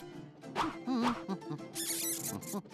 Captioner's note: humming; rat squeaking